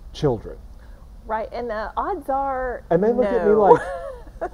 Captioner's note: laughs